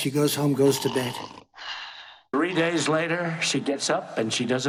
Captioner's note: snoring